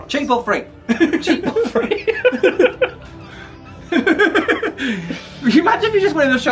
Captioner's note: both laughing